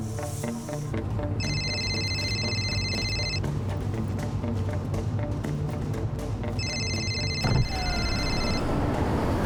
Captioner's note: phone ringing